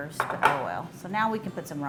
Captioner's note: table banging